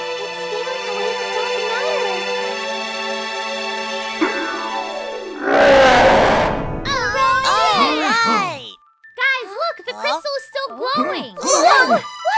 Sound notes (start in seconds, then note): 6.9 cheering